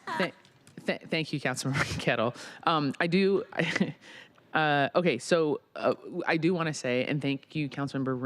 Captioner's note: laughter